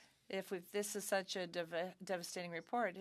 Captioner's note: speaking French